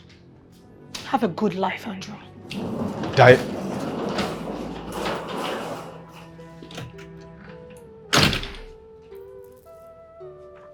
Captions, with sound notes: Have a good life, Andrew. Dia... (Door opens, door closes)